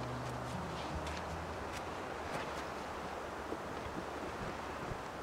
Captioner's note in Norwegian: plystrende vind